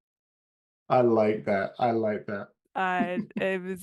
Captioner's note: silent laughter